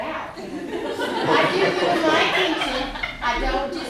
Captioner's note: laughter